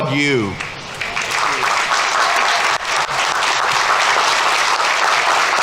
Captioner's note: audience applauding